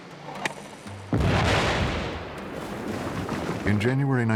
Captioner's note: explosion